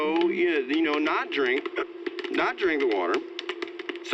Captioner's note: hiccups